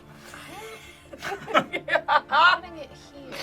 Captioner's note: group laughs